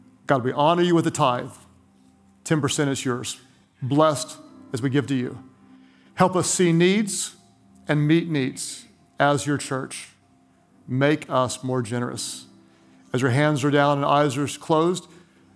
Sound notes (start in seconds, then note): none